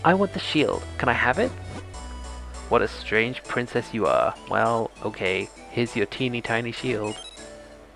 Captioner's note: bell ringer